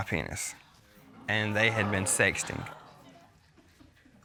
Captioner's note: audience groans